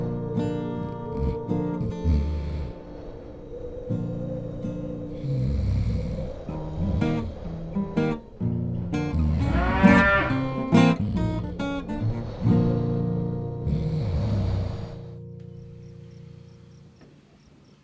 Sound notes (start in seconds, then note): 0.0 bright guitar music; 0.1 loud snoring; 9.1 cow lowing